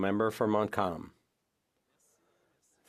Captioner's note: speaking French